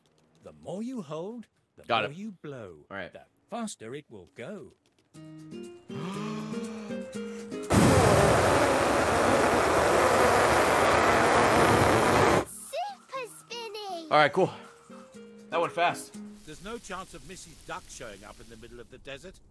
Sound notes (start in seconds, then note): 5.6 raspberry noise; 5.9 inhales